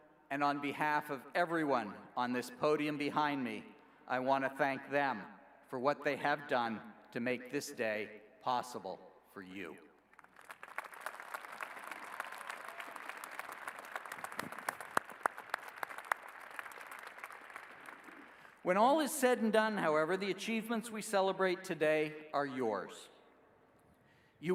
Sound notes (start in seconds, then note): 10.1 applause